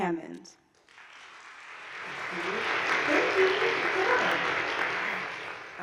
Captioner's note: attendees clapping